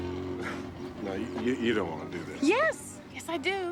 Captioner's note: chuckles